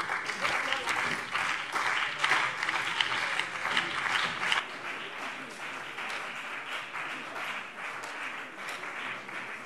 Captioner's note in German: Beifall BÜNDNIS 90/DIE GRÜNEN und CDU